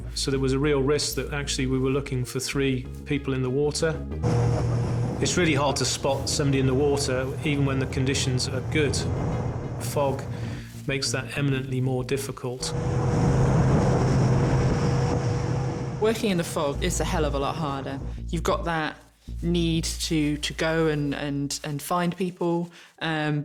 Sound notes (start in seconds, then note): 4.2 engine whirring; 12.6 engine whirring